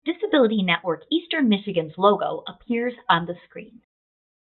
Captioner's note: voiceover